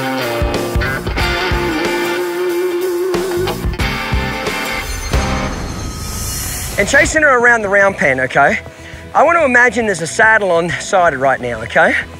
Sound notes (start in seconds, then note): 6.1 shimmering